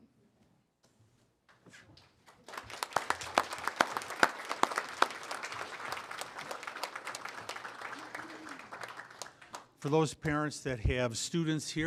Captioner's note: applause